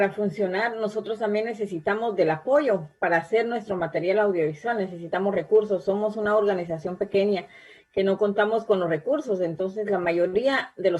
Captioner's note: spanish